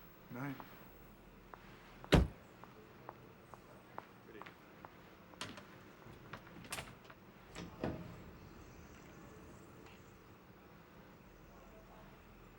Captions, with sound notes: Good night. (CAR DOOR CLOSES) Good evening, ma'am.